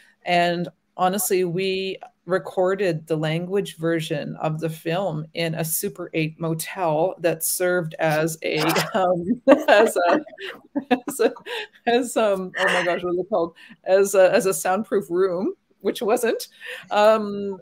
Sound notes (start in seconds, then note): 8.6 laughs